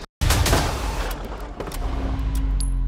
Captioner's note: gun blasting; gun shell clinking